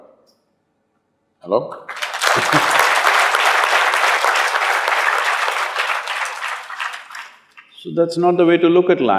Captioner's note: applause